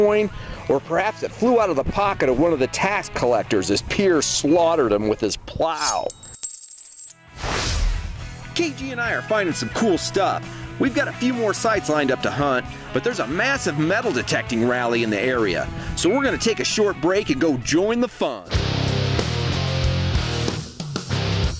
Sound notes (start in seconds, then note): 5.8 coins jangling; 18.5 energetic music